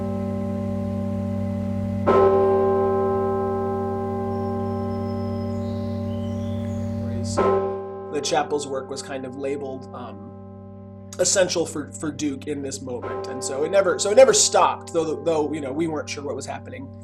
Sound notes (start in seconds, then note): 2.3 second strike of bell tolling 5